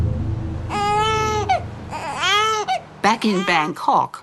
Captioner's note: baby crying